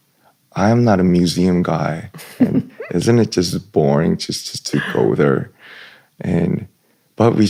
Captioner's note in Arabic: ضحك